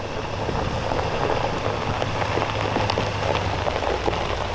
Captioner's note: truck engine rumbling